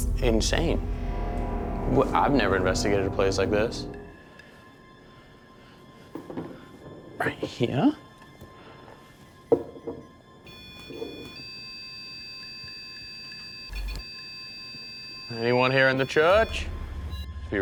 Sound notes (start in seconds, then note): 4.1 ominous music; 10.4 beeping